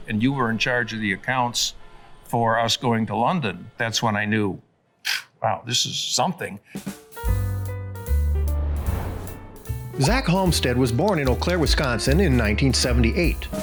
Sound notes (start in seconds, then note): 6.8 graphics swooshing; 6.9 playful piano music